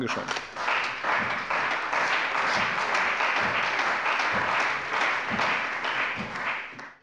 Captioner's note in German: Beifall bei der CDU und dem BÜNDNIS 90/DIE GRÜNEN